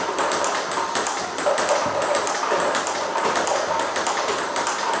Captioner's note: ball ping pong hitting continues